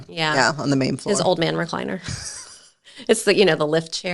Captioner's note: chuckles